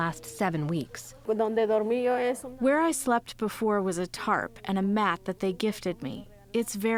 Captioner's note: through translator